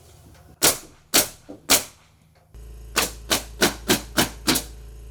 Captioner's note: nail gun clicking